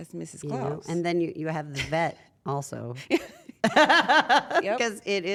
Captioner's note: laugh